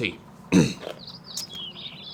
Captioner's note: clears throat